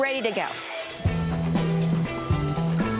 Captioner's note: engine roars; upbeat music